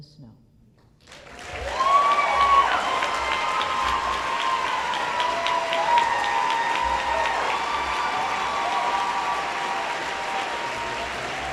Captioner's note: applause